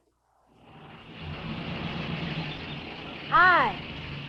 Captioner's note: car engine rumbling